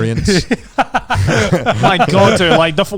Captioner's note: laughing